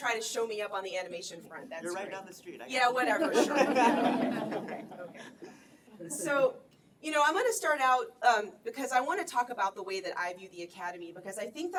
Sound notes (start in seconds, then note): 3.1 laughter